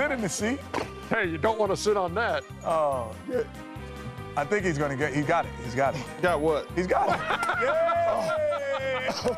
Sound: laughter

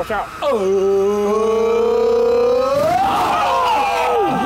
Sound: all cheering

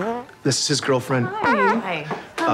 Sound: farts; farts

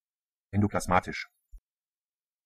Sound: fast Pronunciation

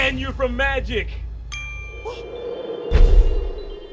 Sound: ding; poof

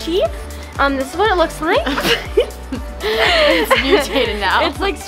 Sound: giggles

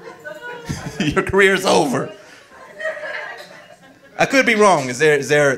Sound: audience laughing

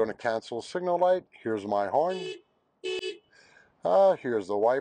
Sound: horn honks

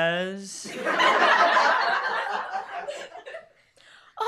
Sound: music stops, laughter

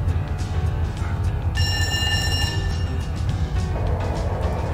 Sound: radiation alert

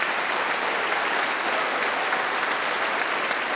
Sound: cheering & Applause

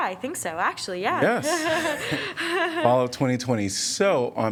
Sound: laughter

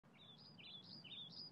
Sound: birds chirping

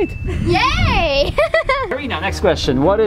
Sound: laughs

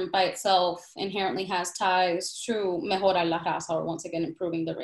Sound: speaks in Spanish

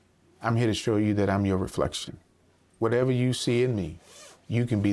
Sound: none

